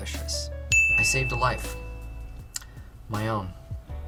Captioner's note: ding